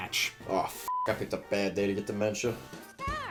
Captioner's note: beeps